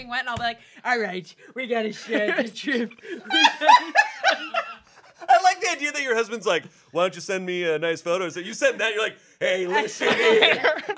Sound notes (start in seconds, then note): 3.1 everyone laughs